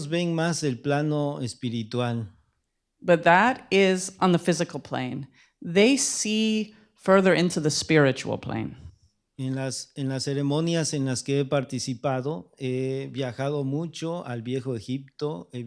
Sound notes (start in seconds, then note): 11.0 speaking spanish